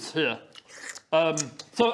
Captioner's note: slurp!